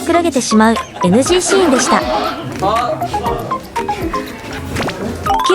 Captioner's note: laughs